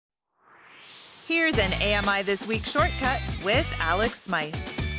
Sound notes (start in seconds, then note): 0.3 swoosh